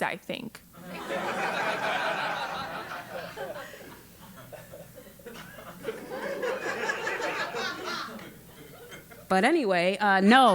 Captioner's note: laugh